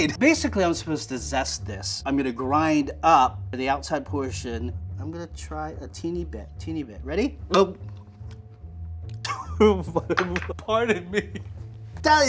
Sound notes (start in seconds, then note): 7.9 gulps; 8.9 coughs; 8.9 splutters